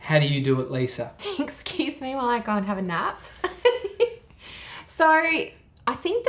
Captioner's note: laughing